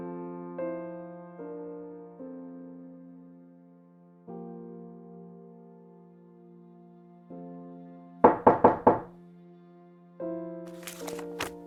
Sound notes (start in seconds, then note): 8.3 knocks